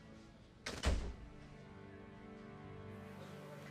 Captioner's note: door closes